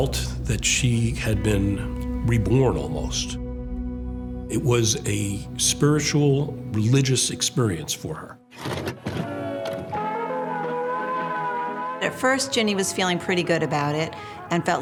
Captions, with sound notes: She's felt that she had been reborn almost. It was a spiritual, religious experience for her. (VHS tape loading, music playing) >> At first, Ginni was feeling pretty good about it,